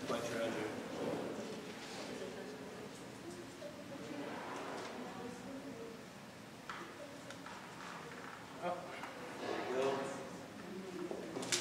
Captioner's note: turning pages